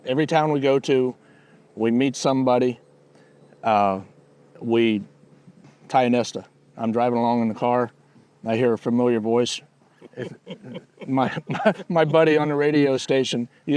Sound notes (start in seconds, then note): 10.0 laughing